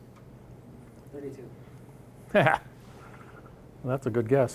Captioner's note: laughing